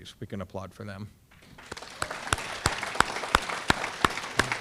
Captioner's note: audience clapping